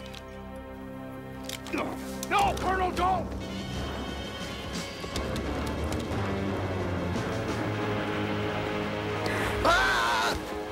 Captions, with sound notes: No, Colonel, don't. ( screaming )